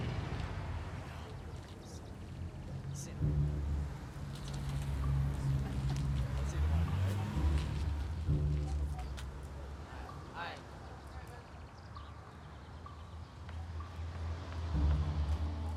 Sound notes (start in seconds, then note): 2.0 Eddie and Howie chattering; 2.0 quiet tense music